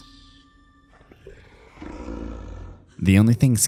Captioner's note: snoring